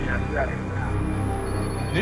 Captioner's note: none